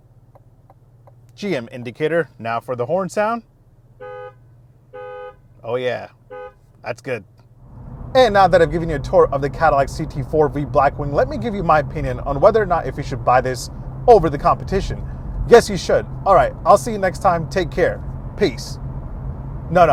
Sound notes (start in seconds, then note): 4.0 horn blares